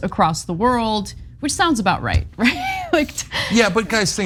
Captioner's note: laugh